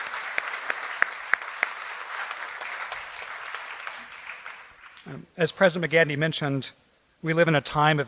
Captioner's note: applause